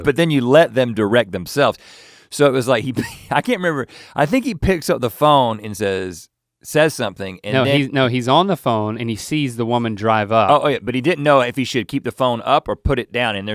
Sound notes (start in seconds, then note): 2.9 laughs